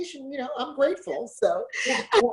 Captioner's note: laughs